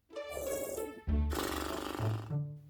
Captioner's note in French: zzz